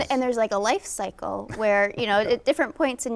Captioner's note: chuckling